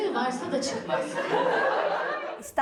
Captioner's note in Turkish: Gülüşmeler